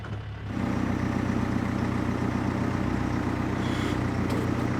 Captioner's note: machine rumbling